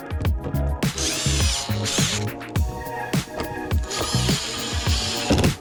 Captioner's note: drill whirring